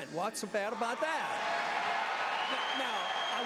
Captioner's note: applause